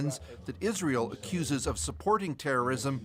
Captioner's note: speaking Alternate Language